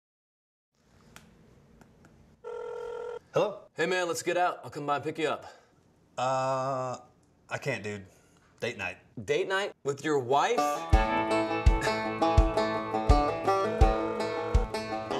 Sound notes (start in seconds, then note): 1.1 finger tapping; 2.4 phone ringing; 11.8 scoffs